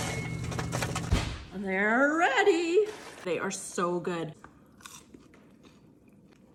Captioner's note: crunch